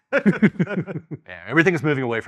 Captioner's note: laughing